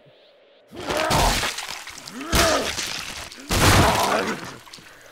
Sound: groaning as he regrows his lost limbs

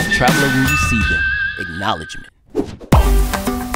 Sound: ding

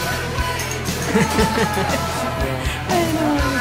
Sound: woman laughs

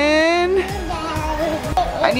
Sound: babbling

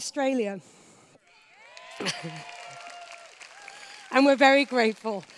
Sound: cheers

